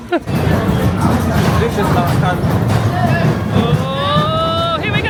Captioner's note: laughing; coaster rumbling